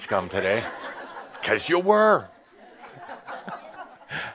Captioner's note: laughter